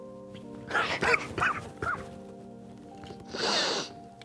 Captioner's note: sighing; sobbing